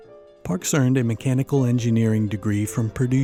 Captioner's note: voiceover